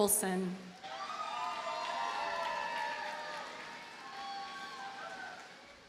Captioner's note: audience cheers and applauds